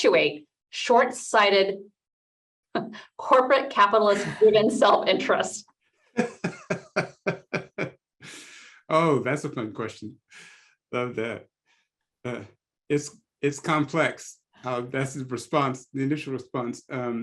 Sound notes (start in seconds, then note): 2.2 laugh